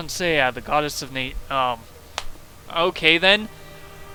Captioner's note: smack